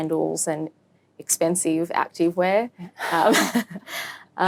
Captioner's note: laughs